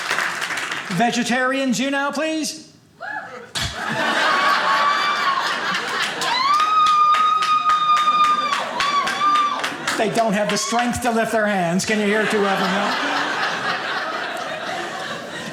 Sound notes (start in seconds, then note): 2.6 few audience members cheer; 3.4 audience laughing; 11.8 audience laughing